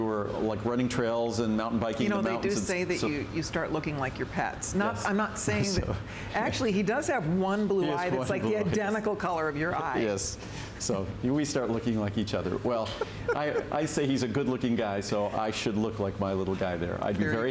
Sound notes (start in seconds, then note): 12.8 laughter